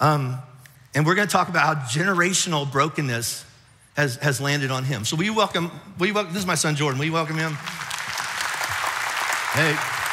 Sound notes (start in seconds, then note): 7.2 audience applauds